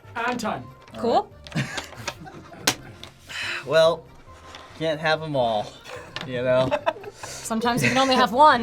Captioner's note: chuckles